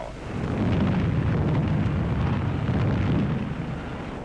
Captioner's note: bombs exploding